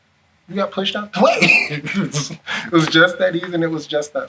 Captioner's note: laughs